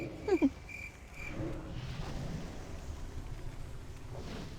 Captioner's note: giggles